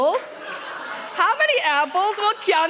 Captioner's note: audience laughing